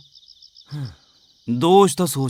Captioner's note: sighs